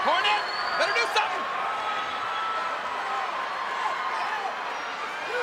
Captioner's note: crowd cheering